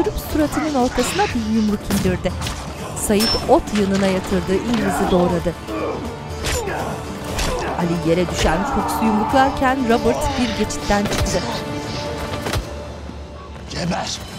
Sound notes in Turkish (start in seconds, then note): 0.1 Müzik - Gerilim; 6.2 Darp sesleri